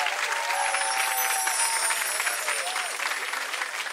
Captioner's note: chimes ring